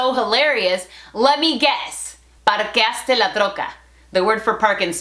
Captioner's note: Spanglish